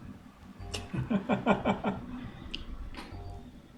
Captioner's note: chuckles